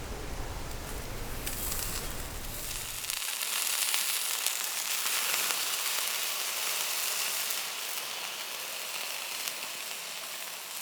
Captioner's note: sizzle